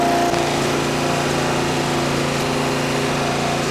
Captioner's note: loud vibrating